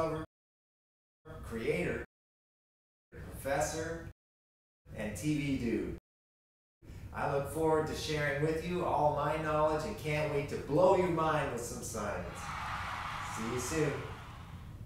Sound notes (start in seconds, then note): 12.2 cheering